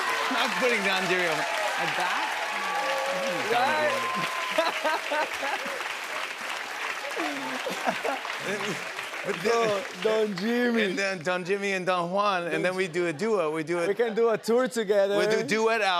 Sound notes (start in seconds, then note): 3.4 cheers and applause; 4.3 laughs